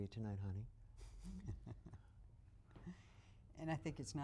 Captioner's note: chuckles